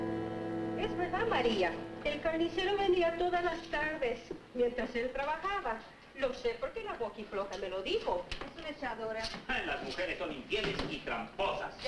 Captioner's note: family speaking Spanish